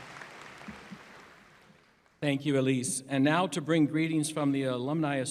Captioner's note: applause